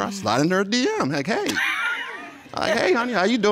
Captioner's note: laughs